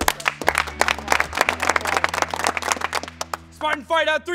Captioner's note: players clap